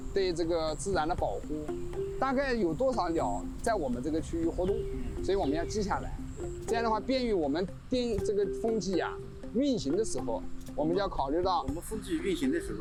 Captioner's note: speaking chinese